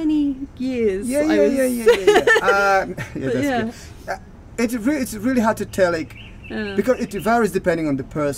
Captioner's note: laughing